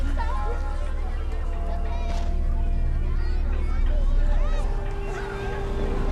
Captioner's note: children chattering; foreboding music